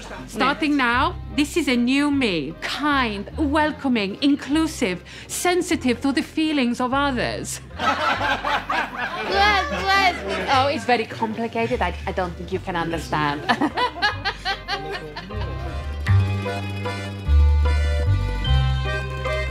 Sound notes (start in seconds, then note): 7.7 laughter; 13.3 laughs